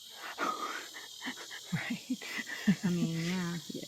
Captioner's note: laughs nervously